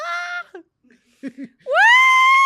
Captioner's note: laughs